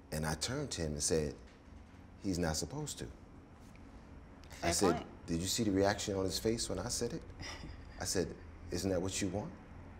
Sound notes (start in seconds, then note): 7.5 chuckles